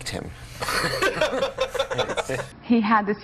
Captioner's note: laughter